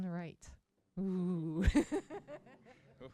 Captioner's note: laughs